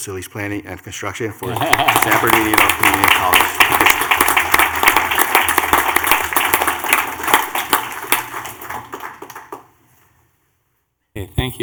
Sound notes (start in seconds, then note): 3.1 laughter; 4.1 clapping